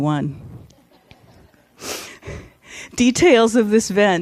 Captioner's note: audience laughs